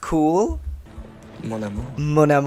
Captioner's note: low voice